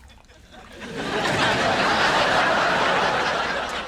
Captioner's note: audience laughs